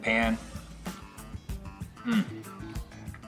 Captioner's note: satisfied grunt